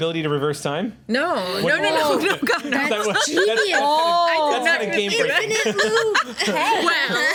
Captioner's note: overlapping chatter